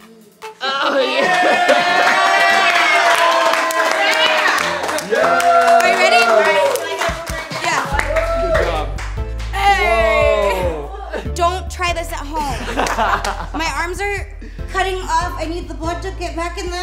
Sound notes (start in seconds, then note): 2.2 crew cheering; 6.5 cheering; 12.4 laughing